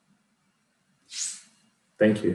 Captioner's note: air whooshing